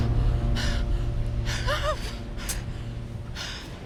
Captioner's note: whimpers